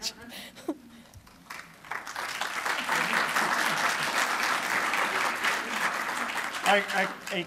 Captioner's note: laughter; applause